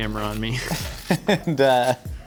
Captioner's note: spatula scraping; laughing